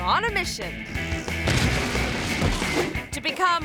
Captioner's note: crates crashing